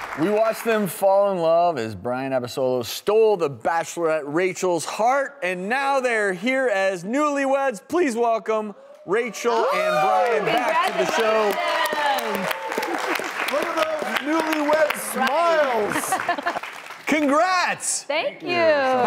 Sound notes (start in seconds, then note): 11.9 audience cheers and applauds